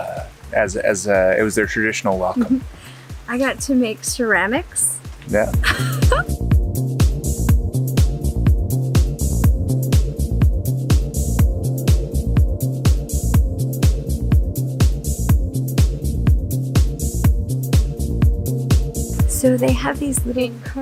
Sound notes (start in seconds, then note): 5.6 laughs; 7.1 upbeat music